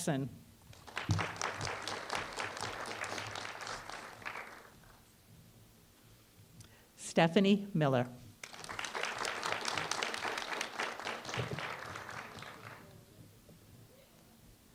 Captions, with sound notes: [Applause] Stephanie Miller [Applause]